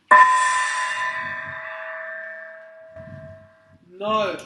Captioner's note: gong